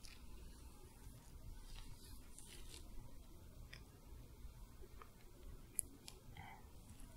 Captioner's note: soft brushing, sticky sounds